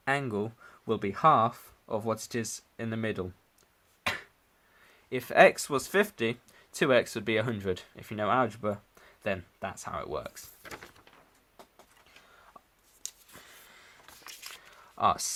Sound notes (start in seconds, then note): 10.9 long awkward pause